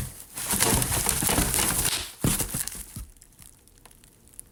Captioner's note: piece clanking; box rattling